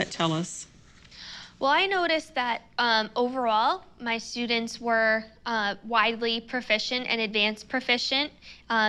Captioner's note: breath